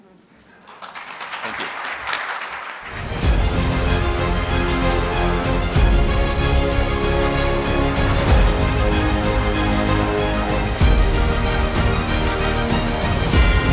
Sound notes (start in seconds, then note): 0.5 crowd applauds; 3.3 uplifting orchestra music